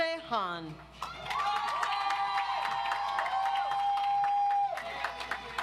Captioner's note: audience applauds